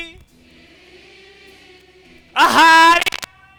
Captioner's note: audience repeats